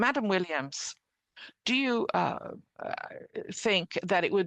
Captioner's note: speaking French